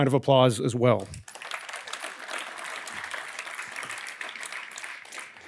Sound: audience clapping

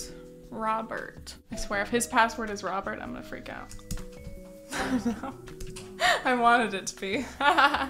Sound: laugh

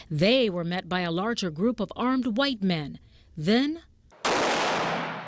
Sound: sound fx of gun shot

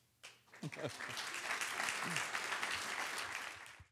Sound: audience applauds

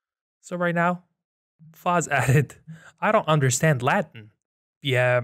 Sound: chuckles

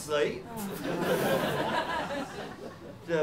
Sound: laughter

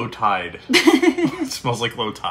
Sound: laughing

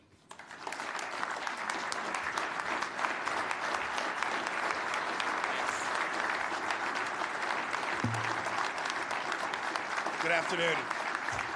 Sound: applause

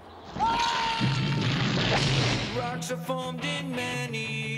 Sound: <i> screams</i>

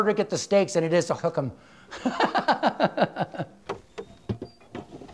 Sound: laughs

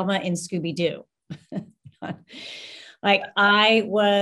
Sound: panel laughs

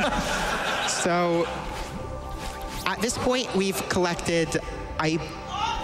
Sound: laughter

